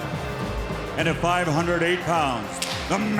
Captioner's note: whip slapping